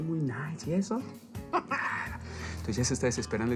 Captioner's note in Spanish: Ríe